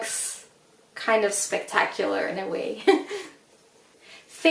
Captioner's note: laughs